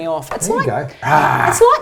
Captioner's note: roars